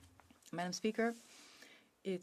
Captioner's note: speaking French